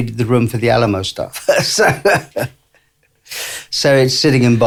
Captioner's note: laughs